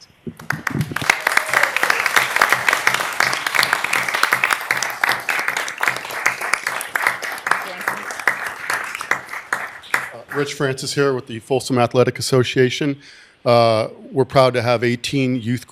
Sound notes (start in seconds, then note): 8.7 applause